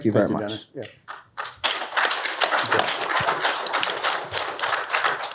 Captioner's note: applause